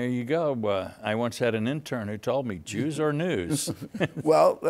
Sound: laughs

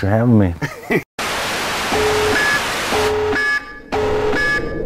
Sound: static and beeping

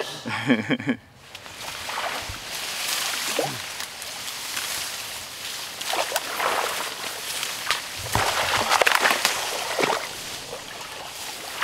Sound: water sloshing

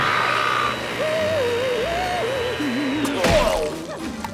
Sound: screaming; humming

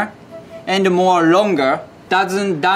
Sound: text chiming

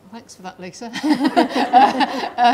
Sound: laughing

